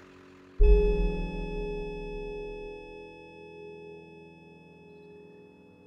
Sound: monitor beeps continuously

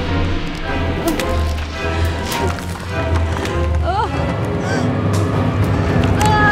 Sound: dramatic music; crackling; groaning

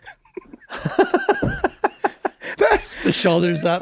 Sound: all laughing

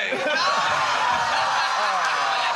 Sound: laughter; applause

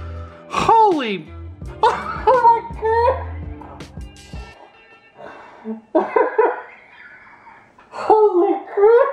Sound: laughter

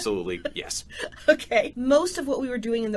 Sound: laughs

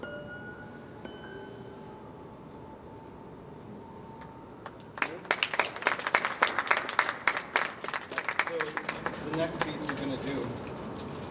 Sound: clapping

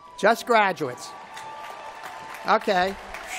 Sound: applause

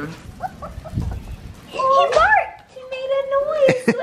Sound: puppy barking

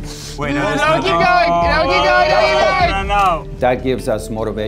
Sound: yelling

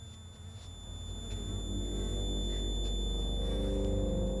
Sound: the buzz of flies; Hannah breathes heavily

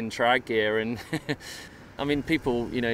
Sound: chuckles

